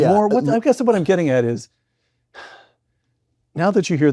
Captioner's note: sighs